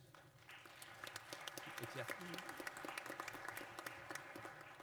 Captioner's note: applause